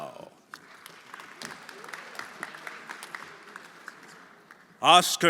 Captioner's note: everyone applauding